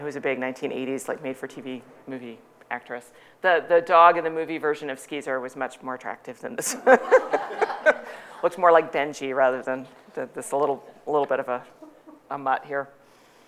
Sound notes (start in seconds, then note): 6.6 laughing; 6.7 audience laughing